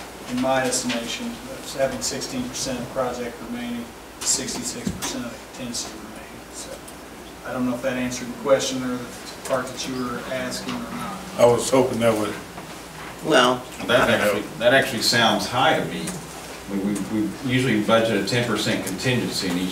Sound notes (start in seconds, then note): 13.5 overlapping chattering